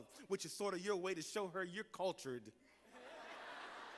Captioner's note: laughter